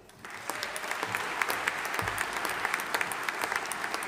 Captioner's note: audience applauding